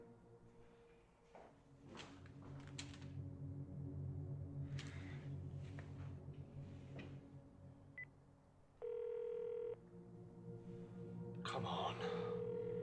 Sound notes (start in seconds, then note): 8.8 dial tone buzzing; 8.8 phone beeping